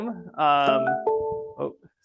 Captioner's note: computer chiming